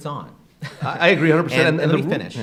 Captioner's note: laughing